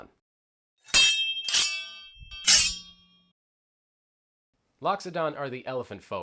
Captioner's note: blades clanking